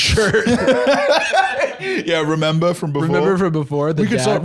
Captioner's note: laughing